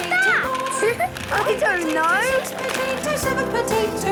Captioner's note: laughing